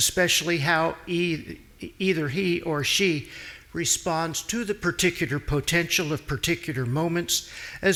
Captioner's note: none